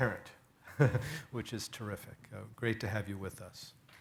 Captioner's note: laughs